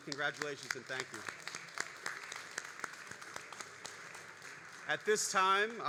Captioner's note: all applauding